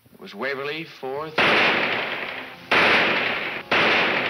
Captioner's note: gunshots banging